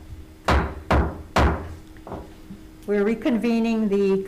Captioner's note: gavel banging on table